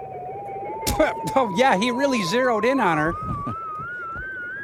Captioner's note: scoffs